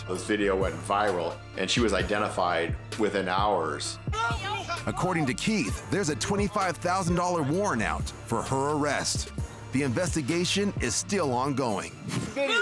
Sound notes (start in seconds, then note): 4.1 people yelling